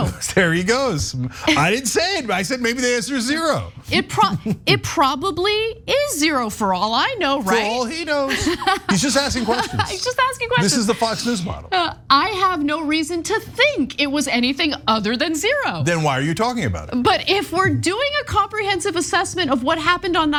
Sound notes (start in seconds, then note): 8.3 laugh